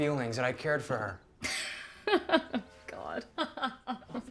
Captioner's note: Caroline laughing